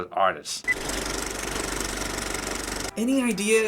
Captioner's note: movie reel clicks